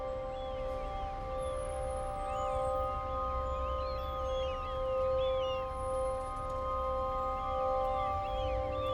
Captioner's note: birds calling